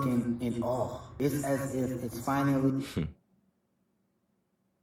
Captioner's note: chuckles